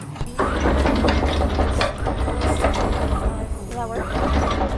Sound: chain crank rumbling

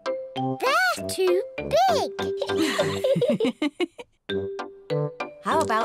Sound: laughs

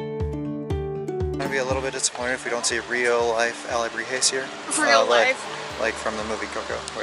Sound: laughter

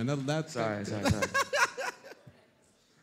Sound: laughter

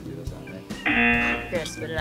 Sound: buzzer

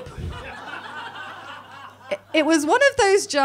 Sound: audience laughing

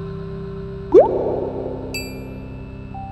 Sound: drip

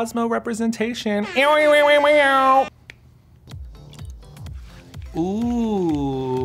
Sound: imitates air horn

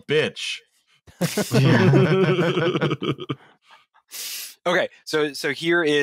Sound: laughter

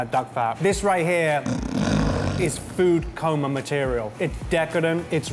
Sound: snoring

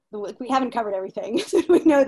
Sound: laughing

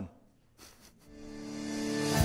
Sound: pastor: Laughter

